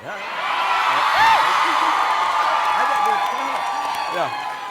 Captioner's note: audience cheering